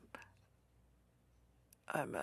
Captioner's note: speaking French